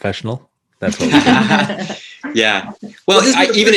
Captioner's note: all laughing